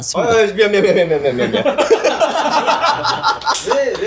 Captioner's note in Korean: 웃음